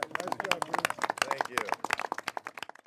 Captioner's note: applause